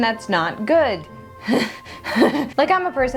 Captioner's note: deranged Laughter